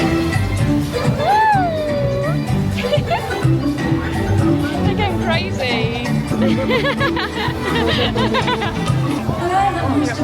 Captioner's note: laughter